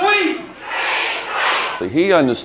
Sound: crowd

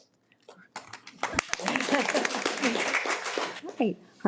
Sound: audience applause

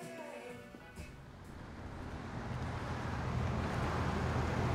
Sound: traffic

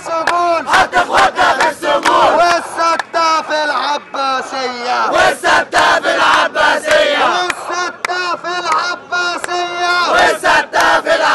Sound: chants

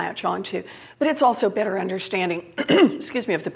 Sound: cough

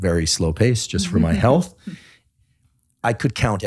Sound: laughing

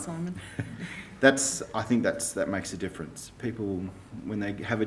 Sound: laughs

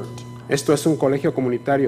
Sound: speaking foreign language

